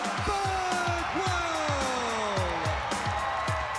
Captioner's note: crowd cheering